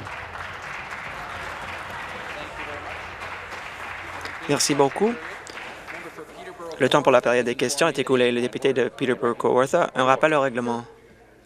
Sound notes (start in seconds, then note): 4.2 applause